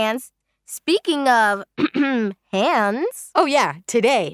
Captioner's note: clears throat